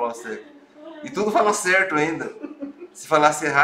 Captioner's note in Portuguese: risos